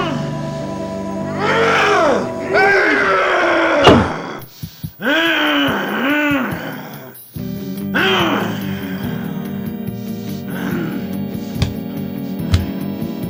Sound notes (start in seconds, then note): 2.5 monster yells; 3.4 thumps; 8.9 hurried guitar music